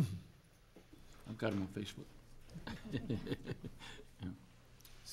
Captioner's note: chuckles